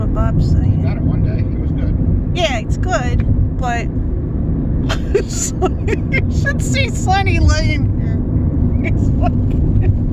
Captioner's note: laughing